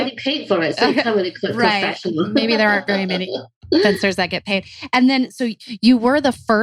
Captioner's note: laughs